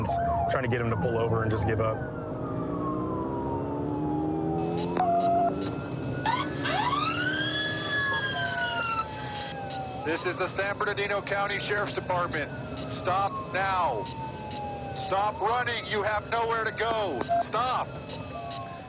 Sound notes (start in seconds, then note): 2.1 siren blaring